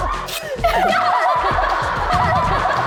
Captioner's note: cheers?